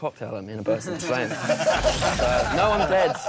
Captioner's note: all laughing